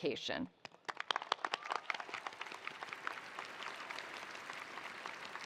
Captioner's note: attendees applauding